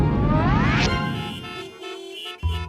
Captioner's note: horns honking